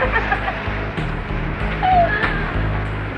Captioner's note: laughing